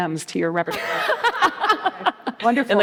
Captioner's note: laughs